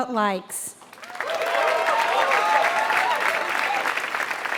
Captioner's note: applause